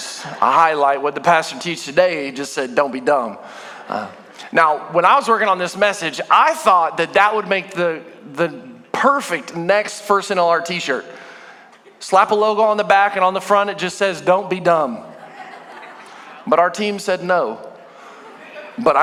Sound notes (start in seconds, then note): 0.0 congregation booing; 0.2 congregation laughing; 15.0 congregation laughing